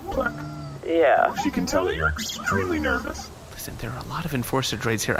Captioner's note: whispering